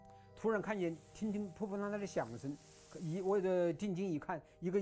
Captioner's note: snow shifting